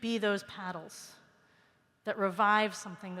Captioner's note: none